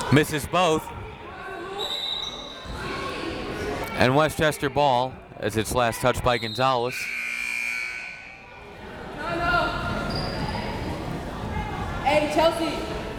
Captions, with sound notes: Misses both. (whistle tweeting) And Westchester ball, as it's last touched by Gonzalez. (buzzer ringing) (crowd members shouting)